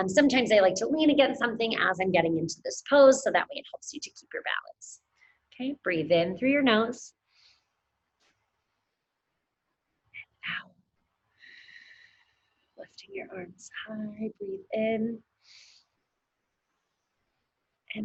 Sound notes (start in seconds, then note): 7.3 inhales heavily; 11.4 exhales heavily; 15.4 inhales heavily